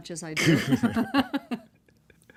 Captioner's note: laughing